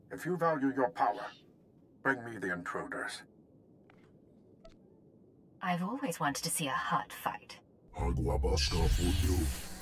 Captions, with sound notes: If you value your power, bring me the intruders. I've always wanted to see a hut fight. [NON-ENGLISH SPEECH]